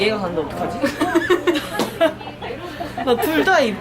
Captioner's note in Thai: กลั้นขำ ล้มเหลว